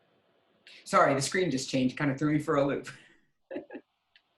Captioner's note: laughing